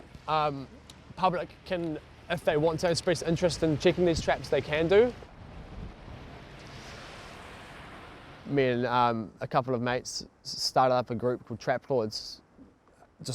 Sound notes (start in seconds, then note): 7.2 loud sigh